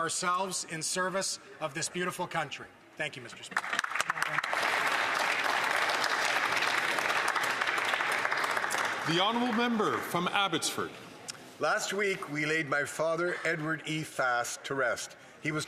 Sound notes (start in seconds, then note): 9.4 applause